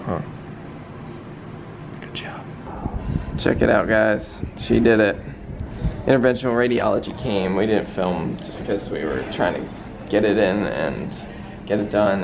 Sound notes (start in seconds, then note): none